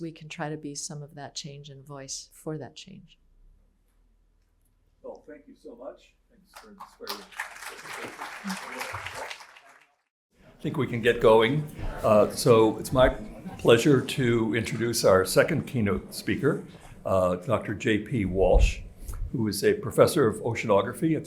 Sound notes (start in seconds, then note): 6.5 applause